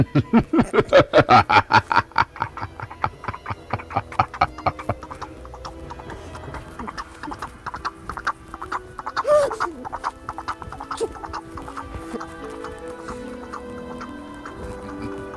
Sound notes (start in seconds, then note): 0.0 horseman laughing evilly; 0.2 eerie music playing; 4.3 hooves clopping; 8.9 gasps; 10.1 eerie music playing; 10.1 hooves clopping